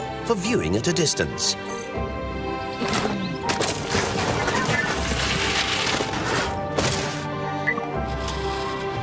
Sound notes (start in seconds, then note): 2.2 compelling music; 3.4 scraping and thumping